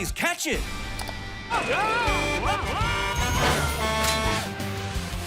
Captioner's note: honking; screaming